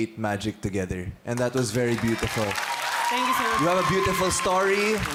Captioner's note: crowd applauding